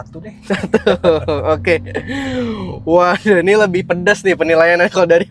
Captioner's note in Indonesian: tertawa; terkesiap